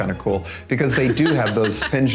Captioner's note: laughing